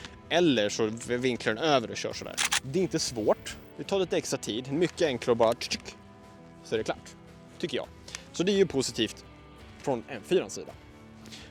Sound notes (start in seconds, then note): 5.9 charging noise